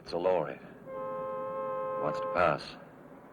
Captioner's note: car horn honking